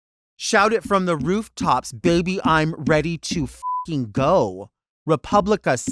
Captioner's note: beep